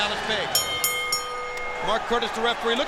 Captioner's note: bell ringing